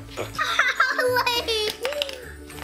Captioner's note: laughs